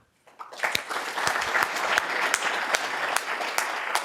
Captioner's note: audience clapping